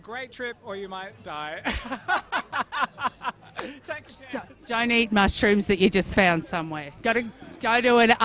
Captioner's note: laughs